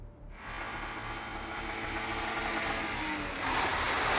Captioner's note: loud buzzing